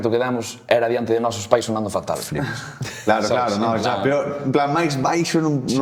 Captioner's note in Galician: risas